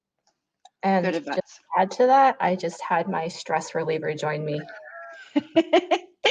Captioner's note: laughs